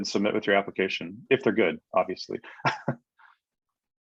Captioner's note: chuckles